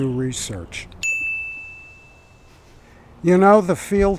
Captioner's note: bell chiming